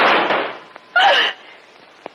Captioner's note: scream